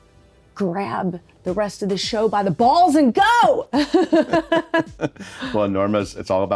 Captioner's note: chuckles